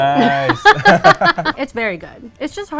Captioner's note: both laughing